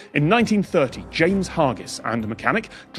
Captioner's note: none